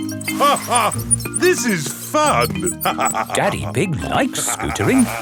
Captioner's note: laughs